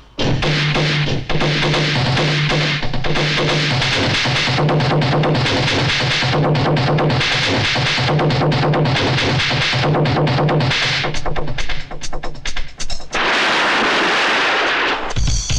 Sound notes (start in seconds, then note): 13.1 ocean Waves